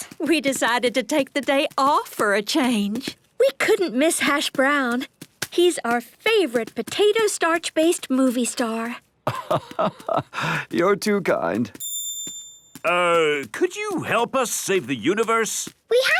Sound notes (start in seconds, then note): 9.2 laugh